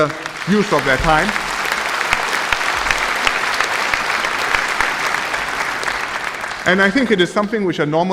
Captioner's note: applause